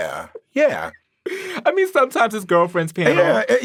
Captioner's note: laughing